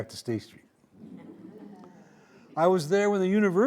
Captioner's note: audience laughing